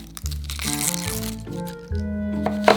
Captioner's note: onion paper peeling